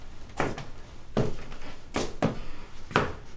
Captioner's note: footsteps